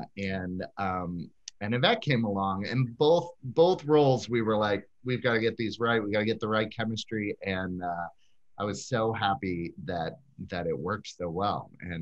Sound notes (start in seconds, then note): none